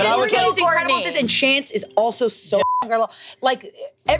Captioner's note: beep